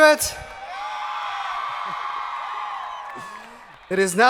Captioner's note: audience cheering